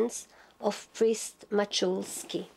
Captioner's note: speaking Polish